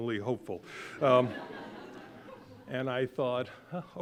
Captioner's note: audience laughing